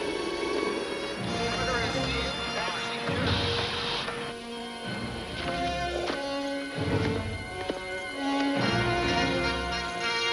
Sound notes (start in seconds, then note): 1.3 radio chattering; 7.0 dramatic theme music